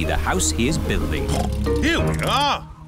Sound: oinks

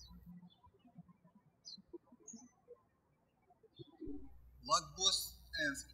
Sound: birds chirping

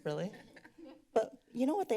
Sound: laughing

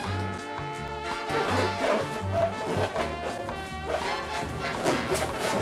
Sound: balloon squeaks

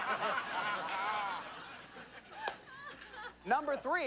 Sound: laughter

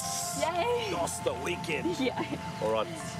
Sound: laughs

